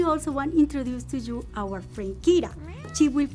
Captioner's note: meow